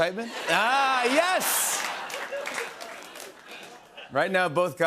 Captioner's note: laughter